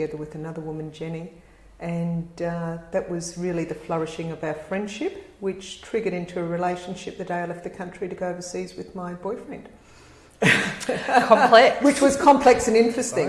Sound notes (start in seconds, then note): 10.4 laugh